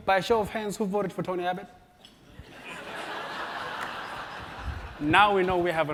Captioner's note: laugh